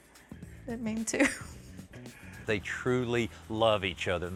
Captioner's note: laughing